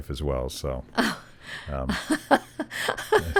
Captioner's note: laughing